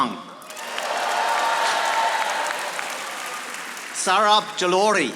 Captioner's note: audience applauding